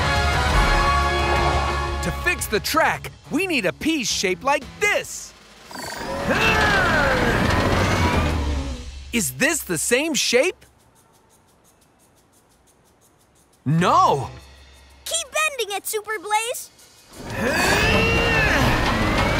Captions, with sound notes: To fix the track, we need a piece shaped like this. [grunting] Is this the same shape? No. Keep bending it, Super Blaze. [grunting]